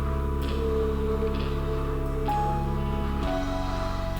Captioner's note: exhales